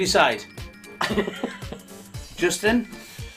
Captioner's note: laughing